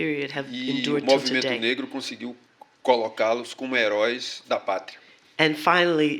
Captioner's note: speaking portuguese